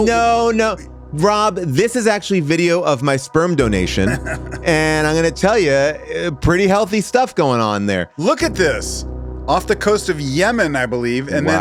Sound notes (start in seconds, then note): 3.8 giggles